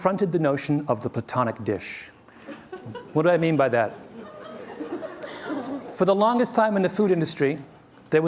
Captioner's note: laughter